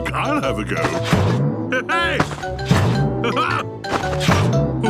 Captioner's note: laughs